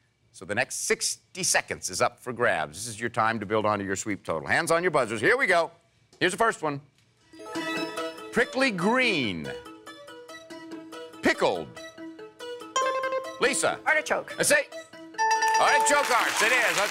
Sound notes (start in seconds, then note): 12.7 bell rings; 12.8 electronic beeping